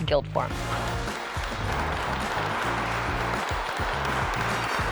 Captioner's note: audience applause